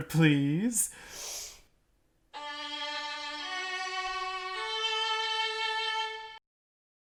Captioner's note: deep breath